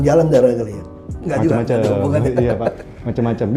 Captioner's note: laughing